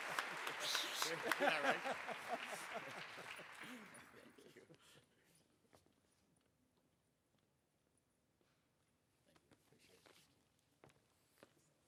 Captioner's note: applause